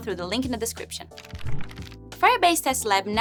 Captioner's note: fluttering